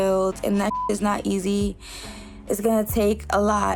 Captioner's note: beep